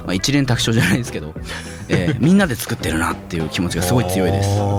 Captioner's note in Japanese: 咳払い